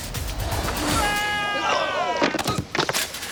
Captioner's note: biker screams; bike clatters; biker groans; biker thuds